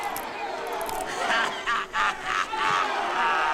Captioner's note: crowd cheers